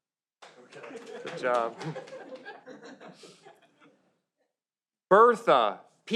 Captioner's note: audience laughs